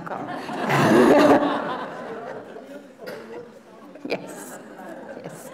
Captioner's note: laughter